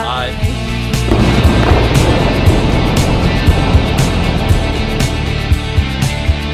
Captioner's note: upbeat music; rubble exploding